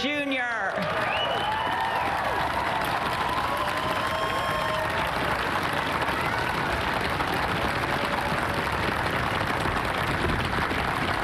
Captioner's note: cheers and applause